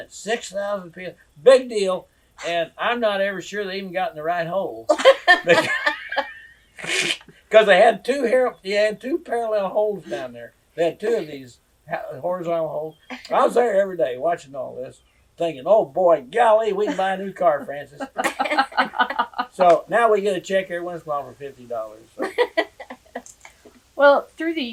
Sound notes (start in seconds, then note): 9.4 laughter; 16.8 laughter